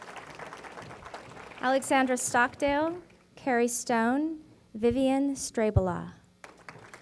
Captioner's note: applause